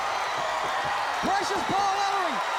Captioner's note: crowd cheering